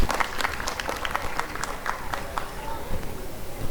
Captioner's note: applause and cheering